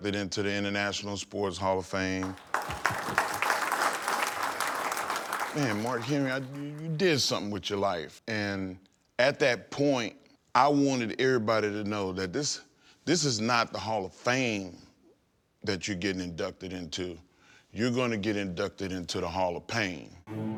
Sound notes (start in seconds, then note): 2.2 attendees clapping